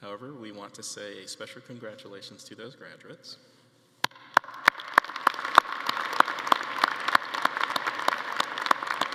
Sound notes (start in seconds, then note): 4.3 attendees applauding